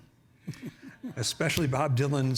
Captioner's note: chuckling